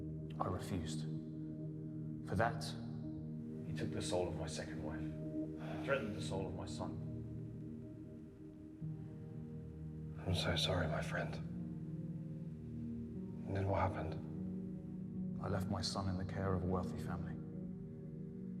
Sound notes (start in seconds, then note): 5.6 Igor sighing; 9.0 soft haunting music